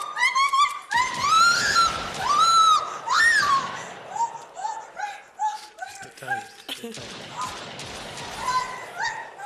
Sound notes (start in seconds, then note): 1.0 gunshots; 6.9 gunshots